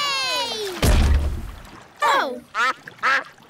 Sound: peppa and george cheer; thud

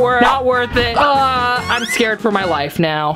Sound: displeased groans

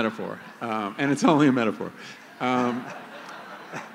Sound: laughter

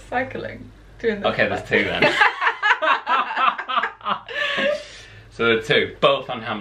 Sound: laughter

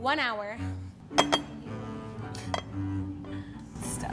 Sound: bowl clinking

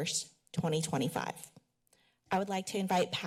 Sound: pause

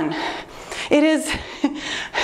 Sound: laughs

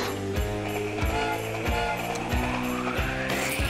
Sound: grunts; train whistling

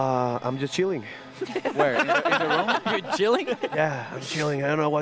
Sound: laughter

